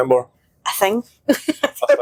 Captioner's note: laughter